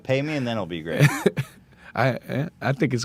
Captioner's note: laughs